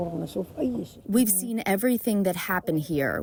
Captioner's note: through translator